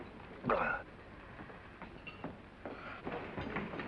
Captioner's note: gasps